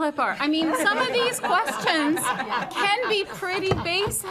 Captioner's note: audience laughs